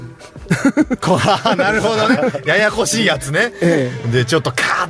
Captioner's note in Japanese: 笑い